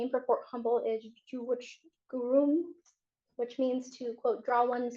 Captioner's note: native american language